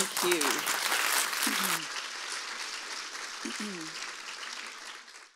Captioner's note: audience applauds